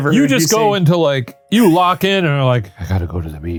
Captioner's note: chuckling